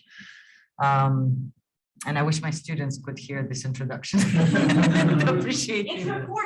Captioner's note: laughing